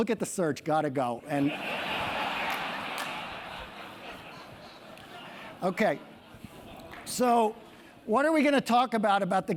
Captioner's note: laugh